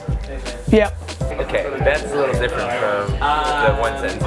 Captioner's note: voiceover